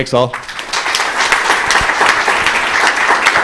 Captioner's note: applause